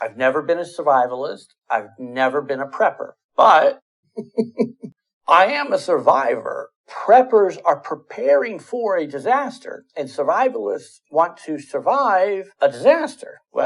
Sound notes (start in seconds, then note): 4.2 laughing